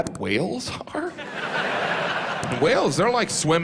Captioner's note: laughter